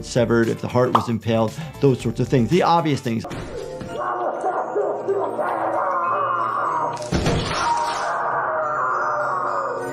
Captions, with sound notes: if the heart was impaled, those sorts of things. The obvious things. (victim screaming) (bones crunching)